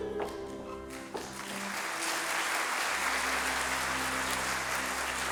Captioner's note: audience applauding